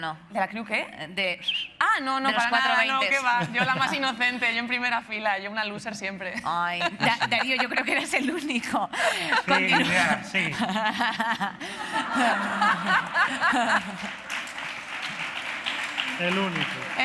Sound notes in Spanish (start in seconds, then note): 11.7 Risas; 12.2 Aplausos